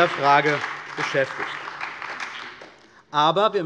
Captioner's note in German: Beifall bei der CDU und dem BÜNDNIS 90/DIE GRÜNEN